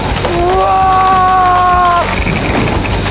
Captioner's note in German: Brüllt